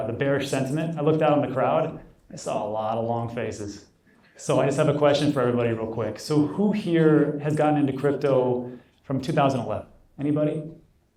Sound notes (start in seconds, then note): none